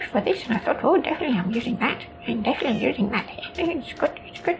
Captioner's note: none